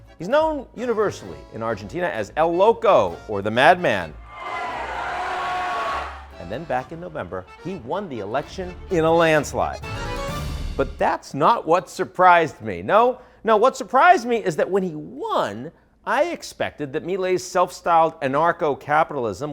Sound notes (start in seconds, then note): 4.1 crowd cheers; 10.0 lively music fades